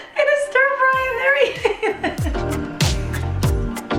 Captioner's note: laughs; mid tempo music